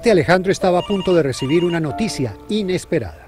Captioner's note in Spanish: teéfono